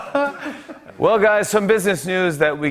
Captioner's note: laughter; normal voice